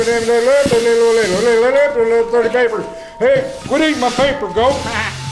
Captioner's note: auctioneer Chanting and sweeping sounds